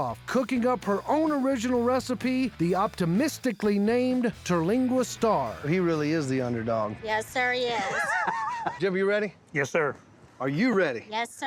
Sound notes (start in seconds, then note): 7.8 laughing